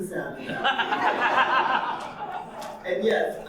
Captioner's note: audience laughing